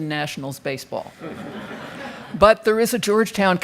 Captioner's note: crowd laughing